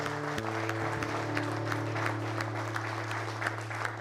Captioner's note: people applauding